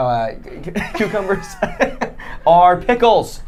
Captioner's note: laughing